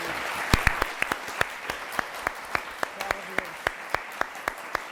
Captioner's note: applause